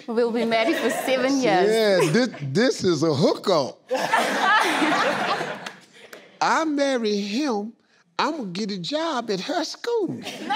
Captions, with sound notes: - Well, we're married for seven years. - Yeah, this is a hookup. (laughing) - I marry him, I gonna get a job at her school.